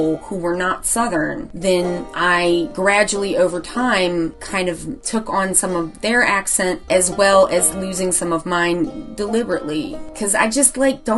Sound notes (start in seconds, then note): none